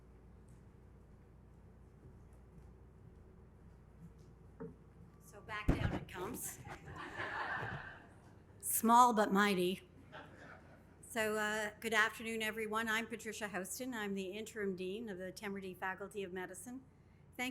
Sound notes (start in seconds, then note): 6.5 audience laughing